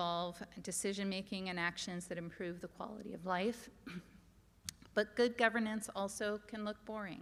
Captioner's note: clears throat